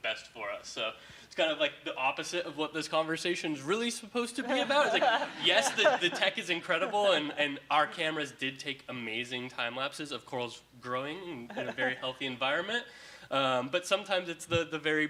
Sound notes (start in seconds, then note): 4.4 audience laughing